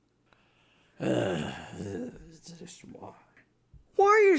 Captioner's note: grumbles